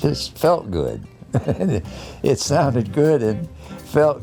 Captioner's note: chuckles